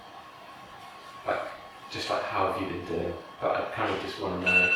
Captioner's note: none